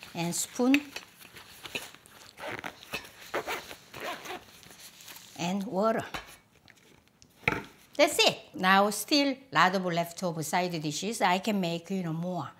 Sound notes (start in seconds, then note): none